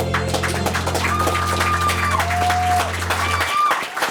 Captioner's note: audience clapping; cheering